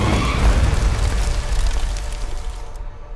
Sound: book spontaneously combusts

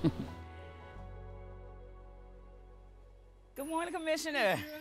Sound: chuckles

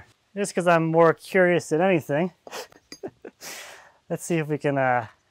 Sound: laughs

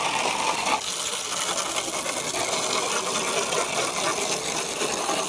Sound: water continues sprinkling

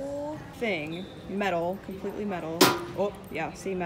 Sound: clank

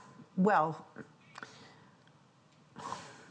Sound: laughs

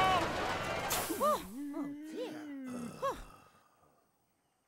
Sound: sighing

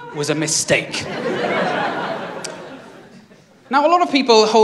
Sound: laughter

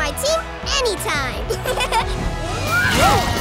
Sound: laughing

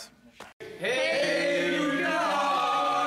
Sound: crowd

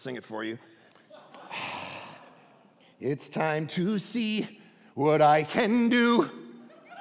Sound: congregation laughing

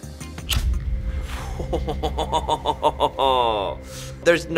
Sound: lid cracking; laughing

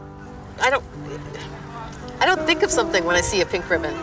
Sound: distant chatter

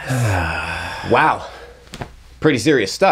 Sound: defeated sigh

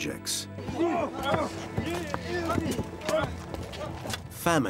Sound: men grunting

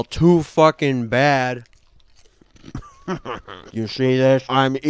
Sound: munches loudly on some goldfish

